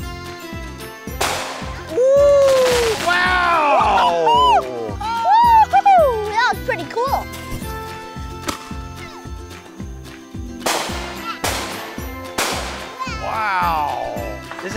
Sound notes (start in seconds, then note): 2.2 firework pops, crackles; 12.3 firework pops